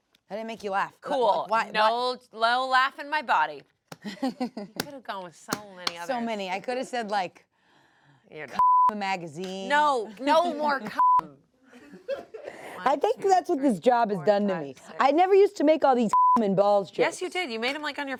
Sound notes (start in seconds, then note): 4.0 laughs; 8.6 beep; 9.5 laughs; 10.9 beep; 11.8 everyone laughs; 16.1 beep